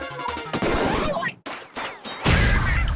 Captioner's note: ink shot ricochets